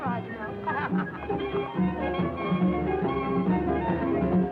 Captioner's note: Billy laughing; dance music